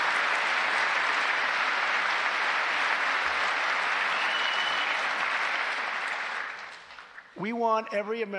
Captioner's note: applause